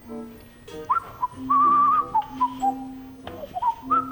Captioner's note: whistling